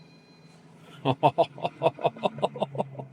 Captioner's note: laughs